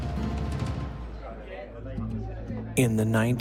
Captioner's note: dramatic music; people chatting